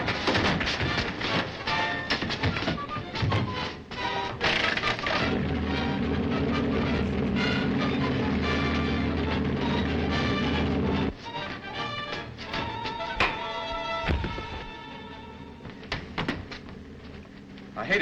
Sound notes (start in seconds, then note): 0.1 punches thudding; 0.1 tense dramatic music; 5.0 submarine rumbling; 13.8 Joe clattering; 14.1 punch thudding